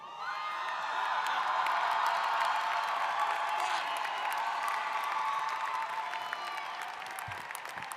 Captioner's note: applause